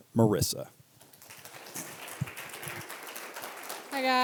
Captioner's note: applause